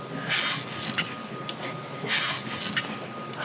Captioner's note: bar creaks